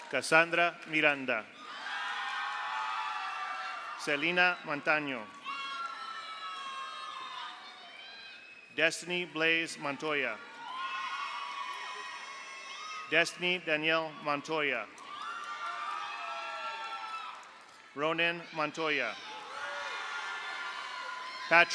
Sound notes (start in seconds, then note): 1.5 audience cheers; 1.6 audience applauds; 5.6 audience applauds; 5.6 audience cheers; 9.9 audience cheers; 10.7 audience applauds; 14.9 audience applauds; 15.1 audience cheers; 19.5 audience applauds